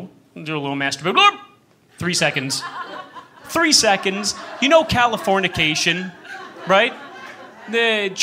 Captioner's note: laughter